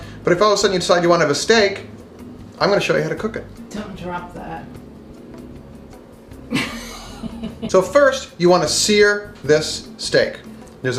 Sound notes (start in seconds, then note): 0.0 playfully mumbles; 6.4 woman laughs